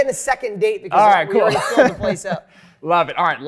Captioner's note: laughs